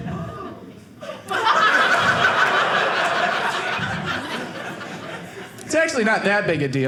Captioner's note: audience laughing